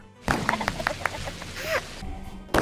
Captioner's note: gun shot; kids cheering